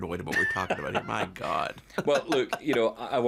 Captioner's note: laughing